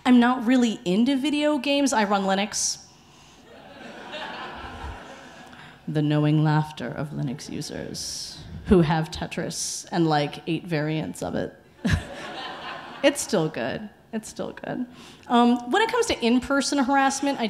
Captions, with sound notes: I'm not really into video games. I run LINUX. (audience laughing) The knowing laughter of LINUX users Who have Tetris and like right variants of it. (laughs) It's still good. It's still good. When it comes to in-person harassment,